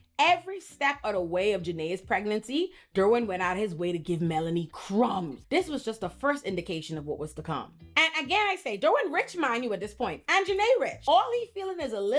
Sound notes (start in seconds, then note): none